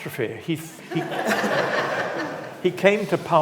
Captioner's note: audience laughs